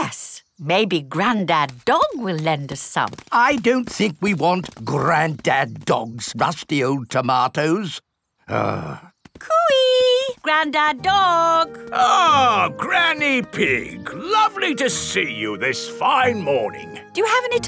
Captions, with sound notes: Yes, maybe Granddad Dog will lend us some. I don't think we want Granddad Dog's rusty old tomatoes. (GRUMBLES) Cooey! Granddad Dog! Ahh, Granny Pig! Lovely to see you this fine morning.